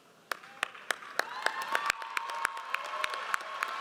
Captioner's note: audience applauds